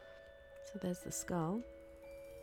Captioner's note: elevator dings